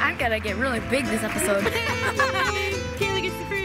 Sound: laughs

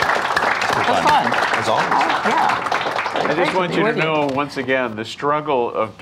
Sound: audience applauding

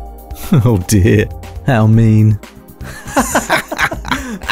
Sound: presenter and Customer laughing, nervously laughing; laughing

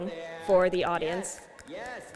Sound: snapping

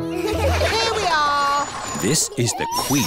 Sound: all giggle

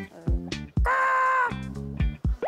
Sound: cawww

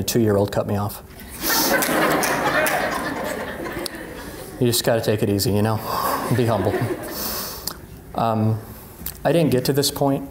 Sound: laughing

